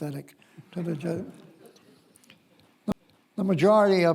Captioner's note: audience chuckles